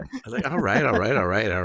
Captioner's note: laughs